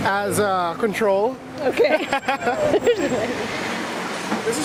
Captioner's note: laughing